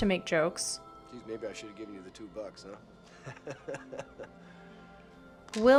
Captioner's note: laughs